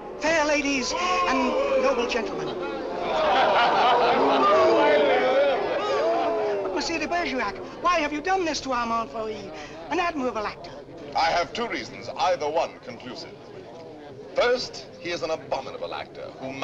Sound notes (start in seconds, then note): 3.0 laughter